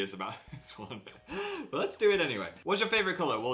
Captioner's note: giggles